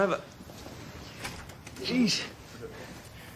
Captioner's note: door opens; door closes